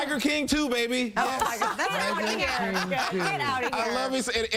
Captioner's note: laughter